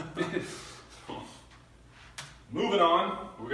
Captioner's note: laughs